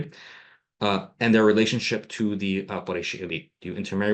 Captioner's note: non-english